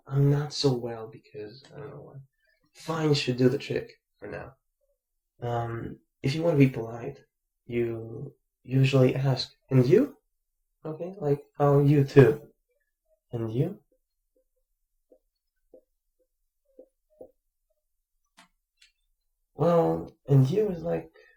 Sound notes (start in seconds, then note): 15.6 big pause